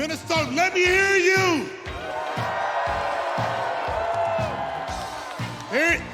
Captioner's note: cheers and applause